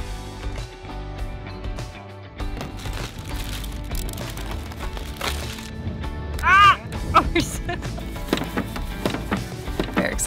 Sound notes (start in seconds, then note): 2.5 bag crinkling